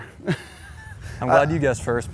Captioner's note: laughs